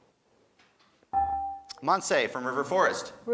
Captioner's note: buzzer dings